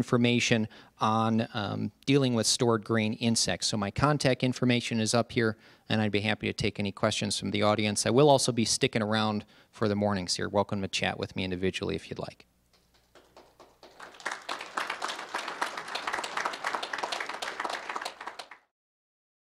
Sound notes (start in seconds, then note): 12.8 applause